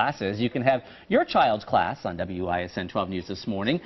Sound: speaking italian

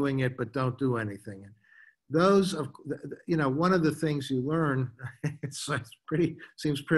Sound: chuckles

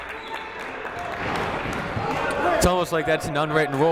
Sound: clapping

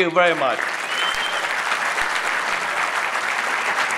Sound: audience applauding

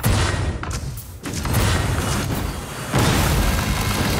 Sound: guns firing

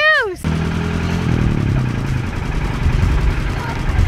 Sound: car engine revving

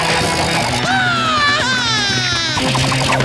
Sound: screaming

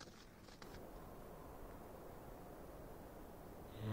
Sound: snoring

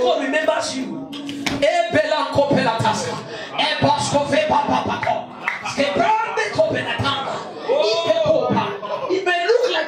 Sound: speaking in tongues

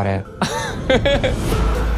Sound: chuckles; chill hip hop music plays

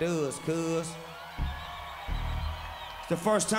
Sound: audience applauding

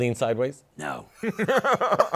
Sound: laughter

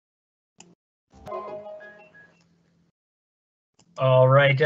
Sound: ringtone sounding

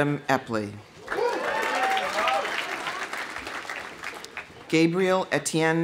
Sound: audience applauding; audience cheering

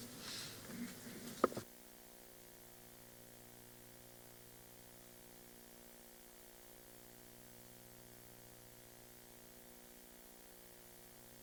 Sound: silence

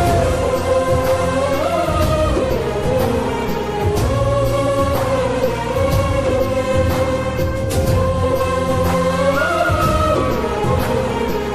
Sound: humming

